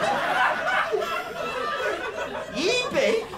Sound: laughter

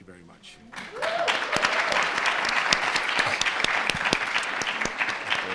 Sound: audience applauding

